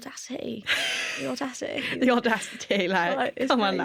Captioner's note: laughter